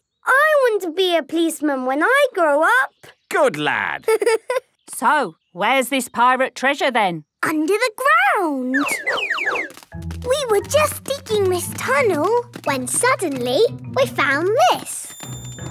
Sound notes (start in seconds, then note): 4.0 giggling